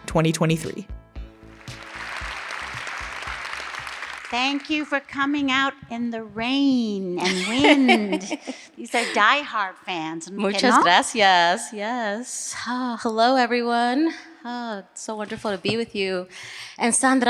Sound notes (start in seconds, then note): 1.4 audience applause